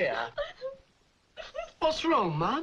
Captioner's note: Mavis cries